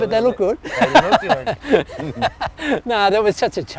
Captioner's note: laughs